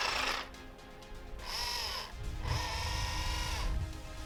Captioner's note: motor whirring